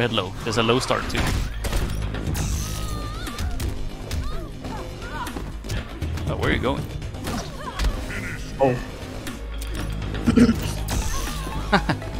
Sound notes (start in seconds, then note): 10.2 clears throat